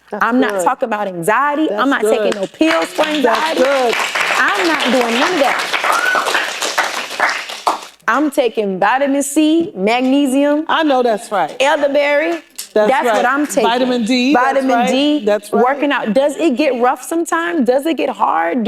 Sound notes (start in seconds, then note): 2.2 applause